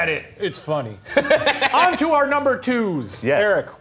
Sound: laughing

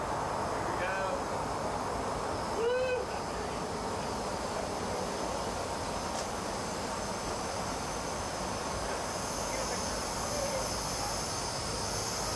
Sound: chatter

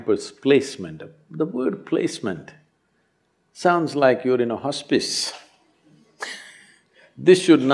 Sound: laughs

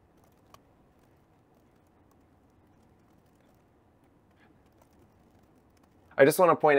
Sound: silence

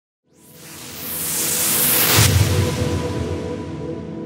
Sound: whooshing

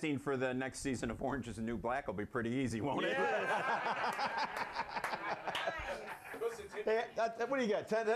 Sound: laughter

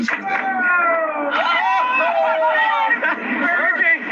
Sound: crowd exclaims

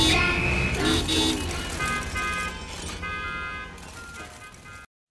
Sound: cars honking

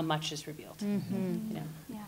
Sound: others agreeing

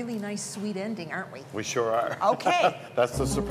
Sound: laughing

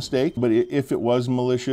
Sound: nats wind + windchimes

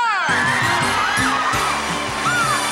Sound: audience cheering; screaming; upbeat jazz music

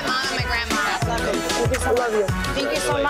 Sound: murmuring

